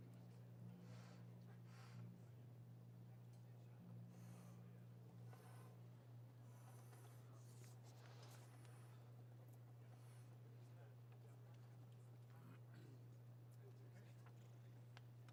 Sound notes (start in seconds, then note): none